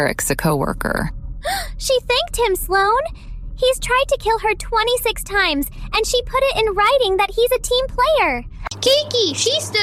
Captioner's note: gasp